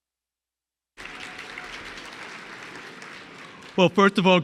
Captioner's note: audience clapping